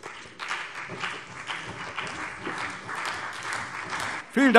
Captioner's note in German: Beifall CDU und vereinzelt BÜNDNIS 90/DIE GRÜNEN